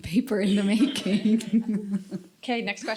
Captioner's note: chuckles